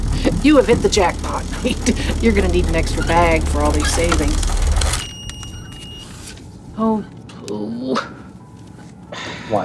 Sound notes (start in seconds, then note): 0.0 laughs; 4.9 beep; 7.4 sighs